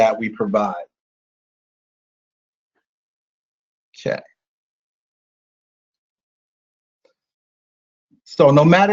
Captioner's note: silence